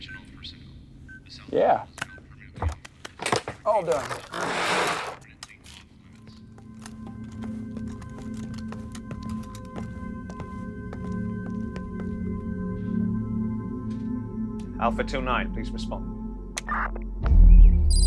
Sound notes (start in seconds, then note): 6.9 boots tapping; 16.4 radio buzzes